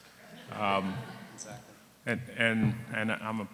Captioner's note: audience laughing